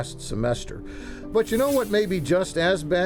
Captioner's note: air whooshes